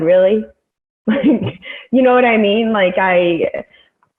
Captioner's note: laughs